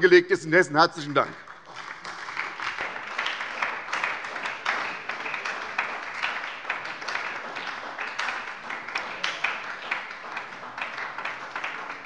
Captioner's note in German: Beifall bei der SPD und der LINKEN